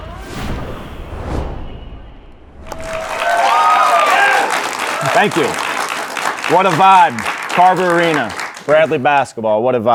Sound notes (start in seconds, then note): 0.0 logo whooshing; 2.6 audience cheering